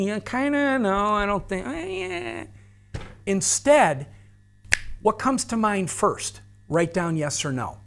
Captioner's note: snaps fingers